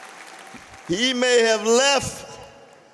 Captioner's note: applause